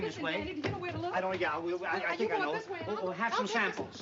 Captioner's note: overlapping chatter